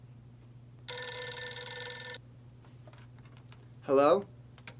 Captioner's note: phone rings